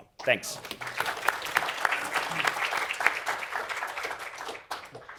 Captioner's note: applause